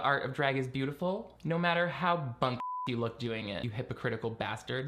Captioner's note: beeping